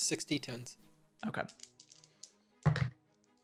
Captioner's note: rolls dice